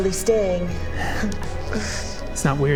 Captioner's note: giggle of implications